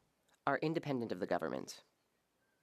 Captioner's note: speaking French